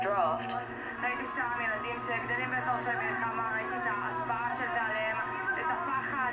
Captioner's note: speaking foreign language